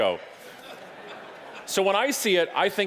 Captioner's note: audience laughing